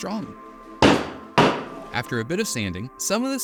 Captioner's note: loudly bangs on table